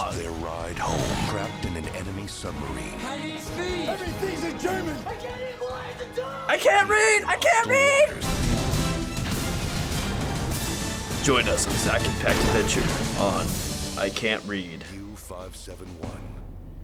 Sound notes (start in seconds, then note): 0.2 voice-over; 8.2 dramatic music; 11.0 in low pitch; 14.8 voice-over